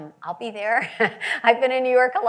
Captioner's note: laughs